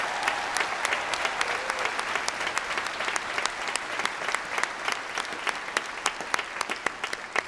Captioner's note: applause